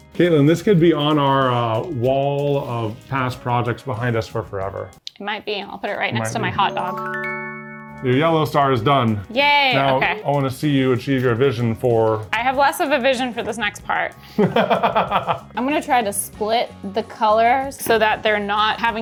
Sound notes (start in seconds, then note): 14.4 laughing